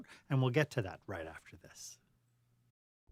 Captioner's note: voiceover